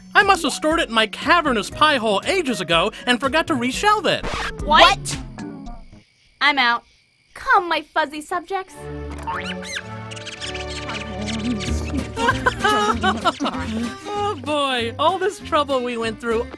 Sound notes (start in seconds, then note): 9.2 squeaking; 12.3 laughing